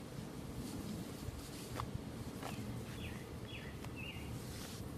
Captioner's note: paper shuffling